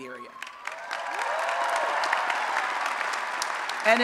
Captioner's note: applause and Cheering